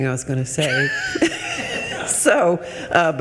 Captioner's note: attendees laughing